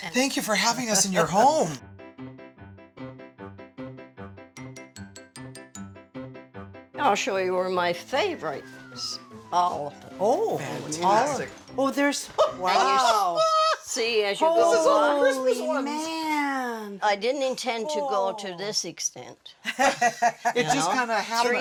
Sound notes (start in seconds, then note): 12.3 laughing; 15.0 mixed chatter; 19.6 laughter